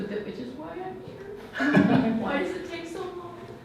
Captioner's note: laughs